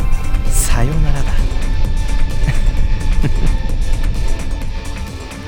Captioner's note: chuckle